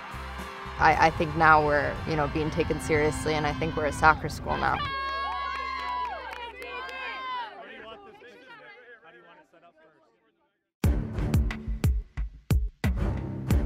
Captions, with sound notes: I think now we're being taken seriously and I think we're a soccer school now. (team cheering) (tense music)